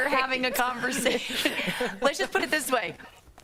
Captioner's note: laughter